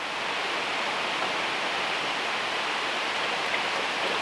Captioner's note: rain pouring